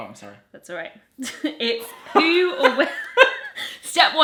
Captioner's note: laughing